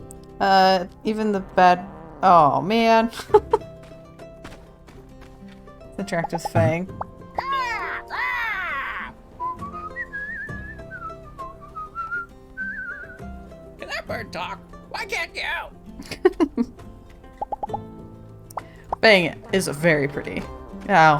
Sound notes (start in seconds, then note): 7.8 bird song